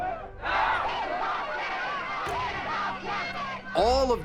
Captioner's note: crowd chanting, shouting